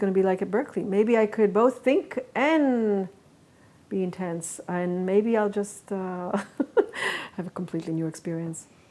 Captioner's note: laughs